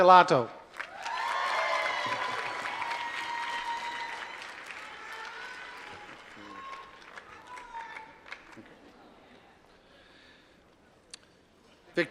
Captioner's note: applause